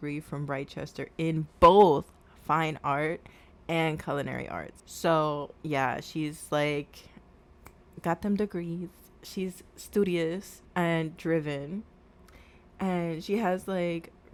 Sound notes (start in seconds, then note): 7.6 snaps fingers